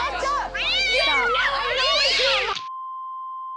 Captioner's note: cat fighting